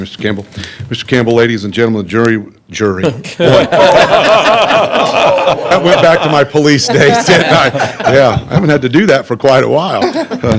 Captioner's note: laughter